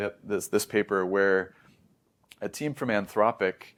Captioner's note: smacks lips